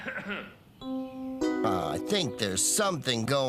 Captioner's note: distant Coughing